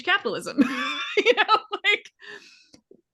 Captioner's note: laughing